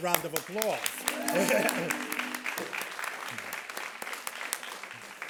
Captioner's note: all applauding